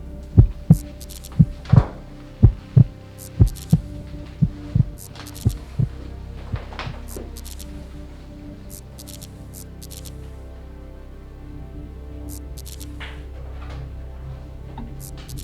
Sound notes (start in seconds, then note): 8.7 electricity buzzes; 8.7 gentle music